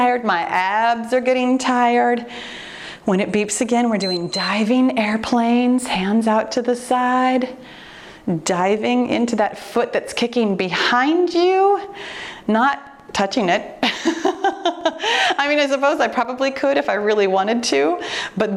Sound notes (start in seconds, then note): 4.0 timer beeps; 14.2 laughs